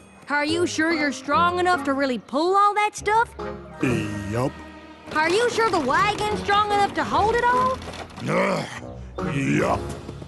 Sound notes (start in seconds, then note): none